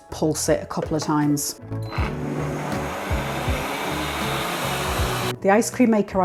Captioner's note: blender roar